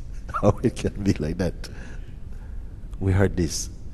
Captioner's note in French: rires